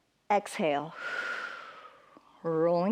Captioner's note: exhales